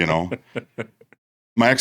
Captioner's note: laughing